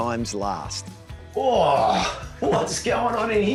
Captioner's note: laughs